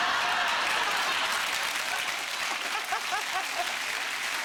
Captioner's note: audience applauding